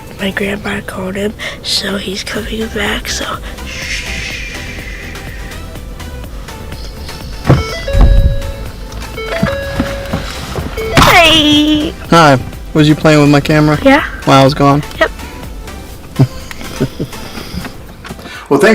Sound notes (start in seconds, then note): 6.7 car alert beeping; 16.1 laughing